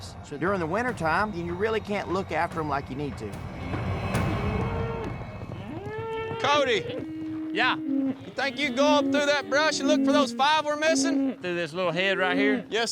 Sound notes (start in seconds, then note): 2.7 mooing